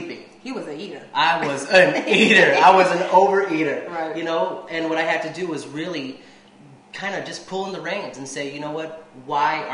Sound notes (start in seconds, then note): 1.4 laughing